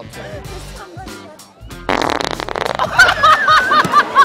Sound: flatulence; laughter

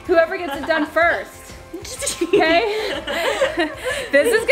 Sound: laughs

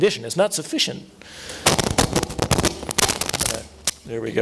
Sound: microphone cracking

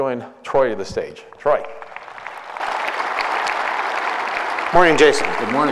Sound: applause

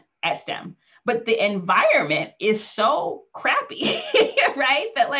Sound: laughing

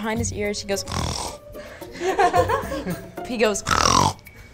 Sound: snorts; laughing; snorts

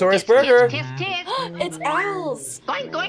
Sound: gasps

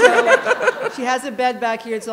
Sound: laughter

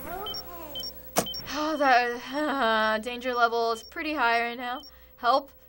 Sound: mumbles, sighs

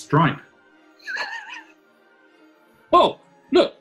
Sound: sniggering

